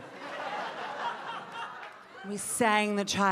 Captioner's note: audience laughing